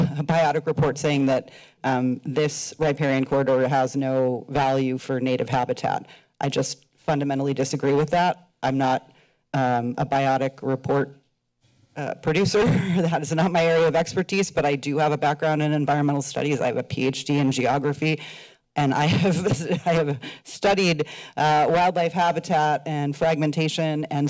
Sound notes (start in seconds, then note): 12.3 laughs; 19.4 laughs